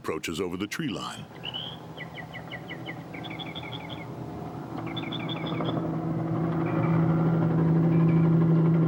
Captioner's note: helicopter whirring